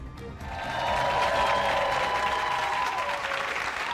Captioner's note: applause